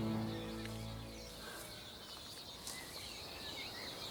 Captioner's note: birds chirping